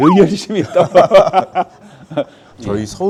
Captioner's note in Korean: 웃음